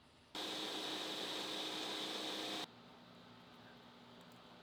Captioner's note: machine whirring